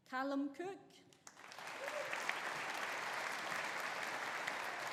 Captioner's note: audience applauding